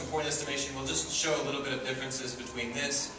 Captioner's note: dinging get softer and quieter